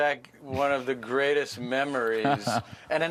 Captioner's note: laughter